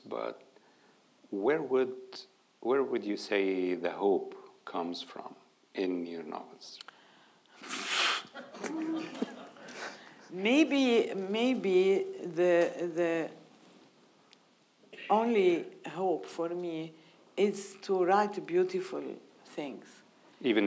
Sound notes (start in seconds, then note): 7.6 huffing; 8.4 audience laughing